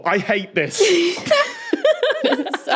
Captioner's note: giggle